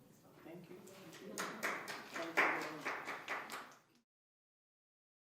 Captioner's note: clapping